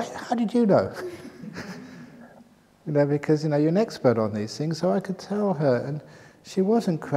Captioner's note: laughs